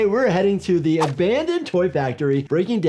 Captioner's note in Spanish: gráficos silbando